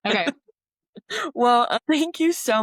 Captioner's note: laughter